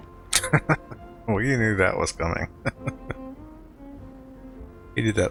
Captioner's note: laughing